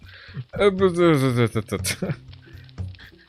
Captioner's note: sounds of disbelief